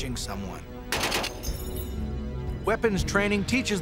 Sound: gun shots

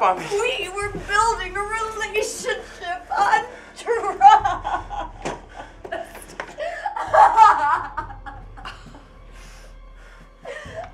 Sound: wailing

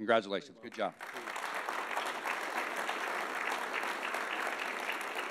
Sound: audience applauding

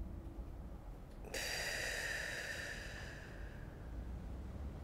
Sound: heavy exhale

